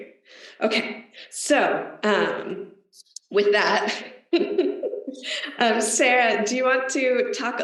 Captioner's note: laughs